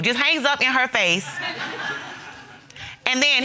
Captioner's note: audience laughs